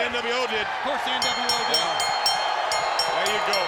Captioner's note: bell rings